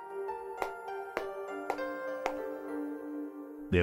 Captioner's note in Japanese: ヒールの靴で歩く音